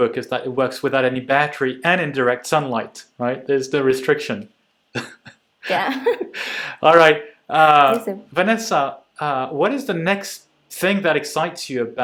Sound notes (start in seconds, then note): 5.6 chuckling